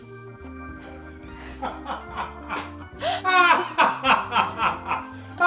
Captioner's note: laughing